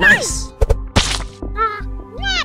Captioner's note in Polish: Splat